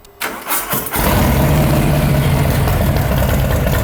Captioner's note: engine roaring